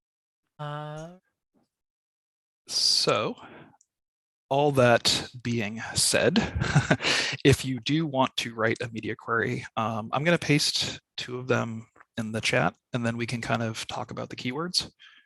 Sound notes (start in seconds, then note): 5.8 chuckles